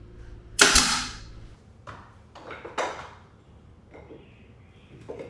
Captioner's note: gun nailing